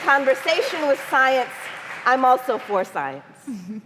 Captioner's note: applause